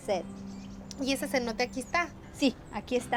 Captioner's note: speaking Spanish